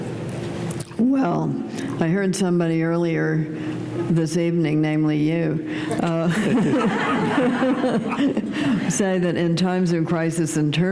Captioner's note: laughter